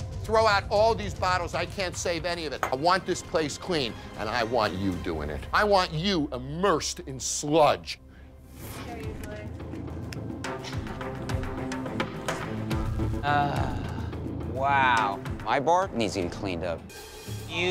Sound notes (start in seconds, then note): 8.7 intense music; 13.1 sighs